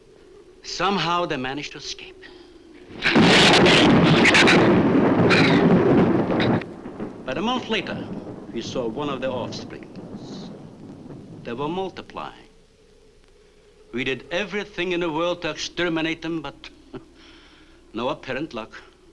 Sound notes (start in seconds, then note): 2.9 shrew snarls; 2.9 thunder claps; 16.9 chuckles